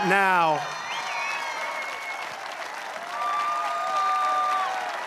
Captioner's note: applause